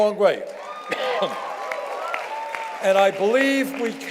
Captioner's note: cheers and applause